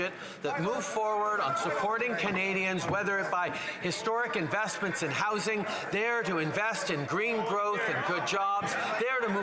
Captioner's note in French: voix de l'interprète